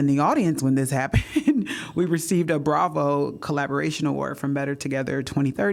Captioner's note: laughter